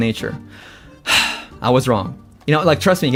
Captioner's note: sighs